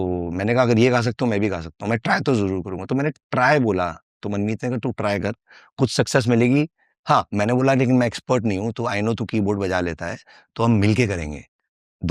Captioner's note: non-english speech